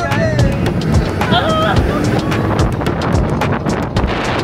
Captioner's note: scream; laugh